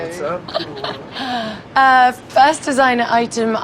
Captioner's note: chuckles